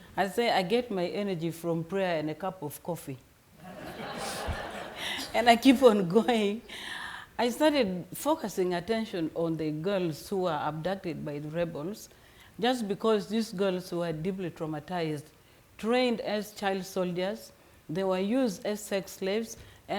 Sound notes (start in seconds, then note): 3.7 audience members laughing; 6.7 chuckles